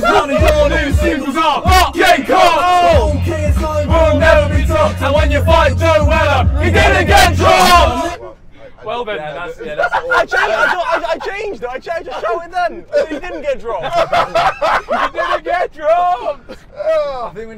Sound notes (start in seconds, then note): 8.6 group chatter; 13.7 laughing